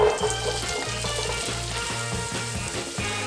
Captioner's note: sizzling sound; upbeat music